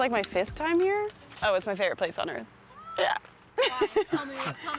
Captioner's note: laughing